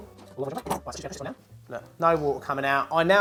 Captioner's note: fast forward speed talking